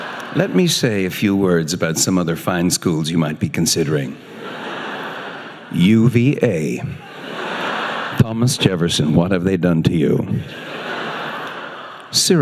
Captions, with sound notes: Let me say a few words about some other fine schools you might be considering. UVA. (audience laughing) Thomas Jefferson what have they done to you?